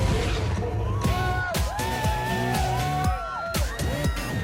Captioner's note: whooping